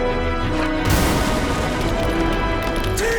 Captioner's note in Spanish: Explosión